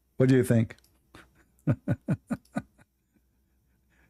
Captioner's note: Ketawa